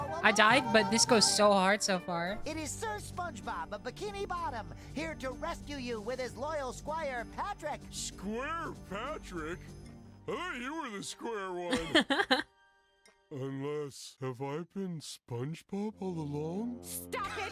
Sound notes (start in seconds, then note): 11.7 laugh; 17.2 laughter